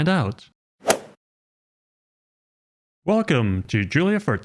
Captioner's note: golf ball hit sound effect